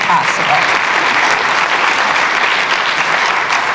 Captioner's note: applause